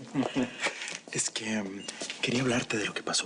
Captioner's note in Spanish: Ríe